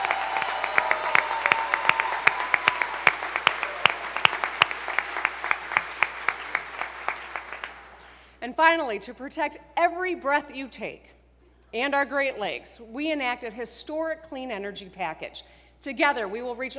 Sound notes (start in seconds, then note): 3.9 applause